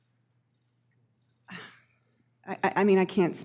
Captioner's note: sighs